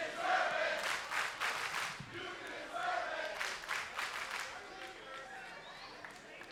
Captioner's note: crowd chants